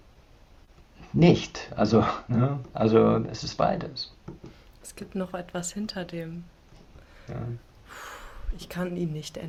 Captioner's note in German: seufzt